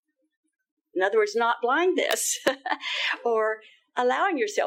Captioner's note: laughing